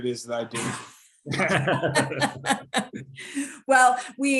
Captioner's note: speakers laughing